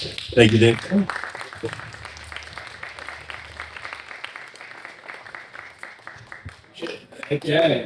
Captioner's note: clapping